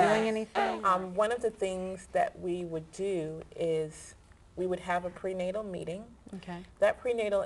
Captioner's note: making happy noises throughout